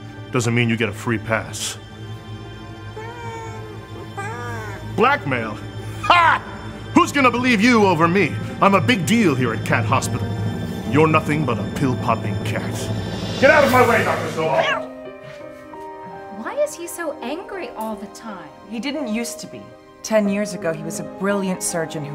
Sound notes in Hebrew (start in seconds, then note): 2.9 יללה